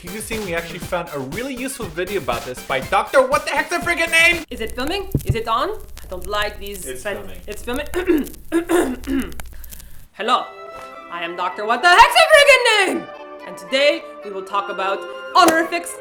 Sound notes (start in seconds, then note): 4.1 static sound; 8.5 clears throat